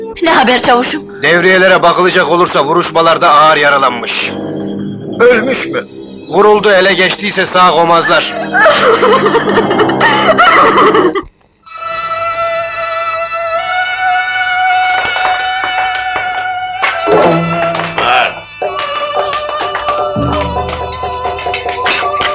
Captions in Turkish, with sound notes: - Ne haber çavuşum? - Devriyelere bakılacak olursa vuruşmalarda ağır yaralanmış. - Ölmüş mü? - Vuruldu ele geçtiyse sağ komazlar. [Hıçkırıklar]